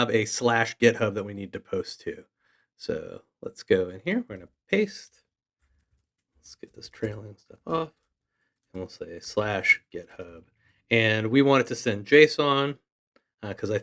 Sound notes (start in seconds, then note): 7.1 faintly speaking